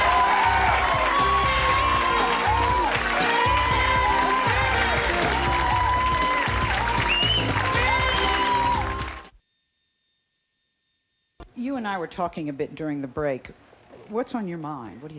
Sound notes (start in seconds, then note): 0.3 chill jazz music; 2.7 audience applauds